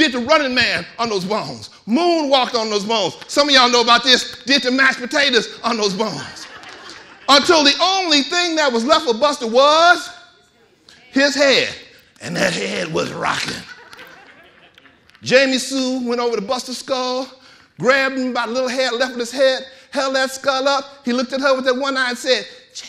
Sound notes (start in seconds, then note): 5.8 audience laughing; 13.1 audience laughing